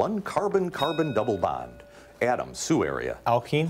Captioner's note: bell rings